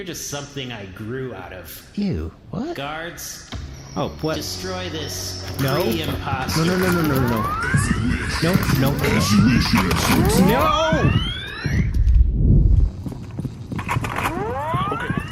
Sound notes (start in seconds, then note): 7.8 charging blaster